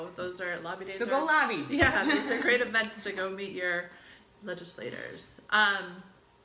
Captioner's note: laughs